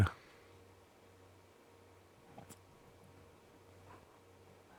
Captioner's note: silence